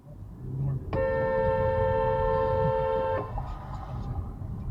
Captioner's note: hooooonk